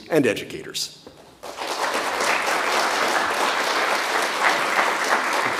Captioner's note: audience applauds